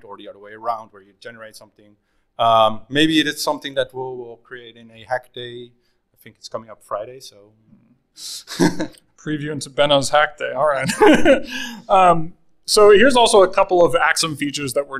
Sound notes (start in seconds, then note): 8.4 chuckles; 10.7 laughing